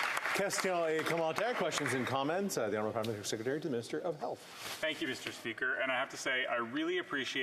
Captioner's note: some Applause